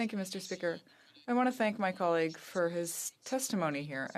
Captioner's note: speaking in french